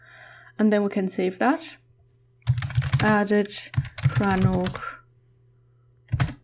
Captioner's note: typing